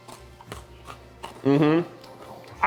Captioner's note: crunching